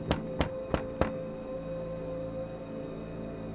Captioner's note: knocking